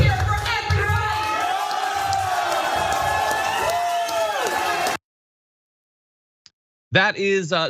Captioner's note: applause